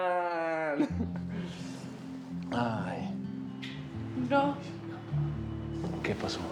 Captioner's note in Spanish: Risas